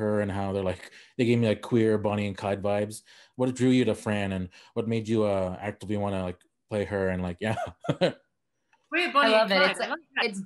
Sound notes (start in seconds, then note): 7.4 laughing